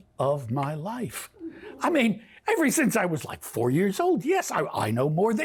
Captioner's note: laughter